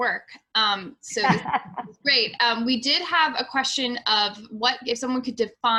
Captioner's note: laughs